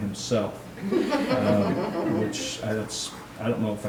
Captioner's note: audience laughs